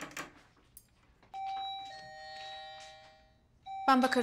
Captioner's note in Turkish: Kapı çalıyor